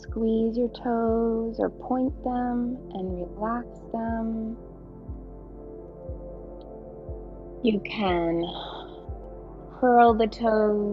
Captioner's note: exhales